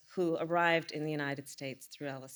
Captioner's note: none